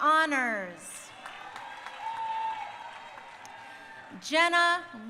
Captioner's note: crowd cheering